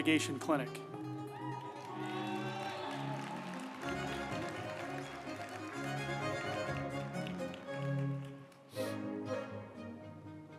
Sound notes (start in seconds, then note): 1.2 group applauding; 2.0 uplifting music